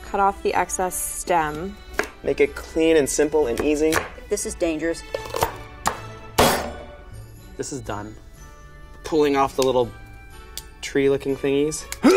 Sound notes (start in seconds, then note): 6.4 chopping